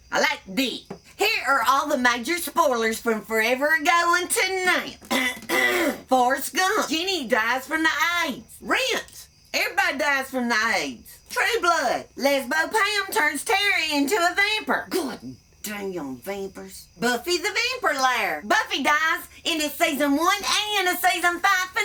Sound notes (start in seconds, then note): 5.1 clears throat